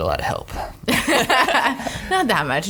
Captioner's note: laughs